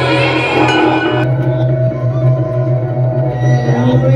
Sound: ding!

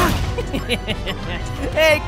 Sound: giggles

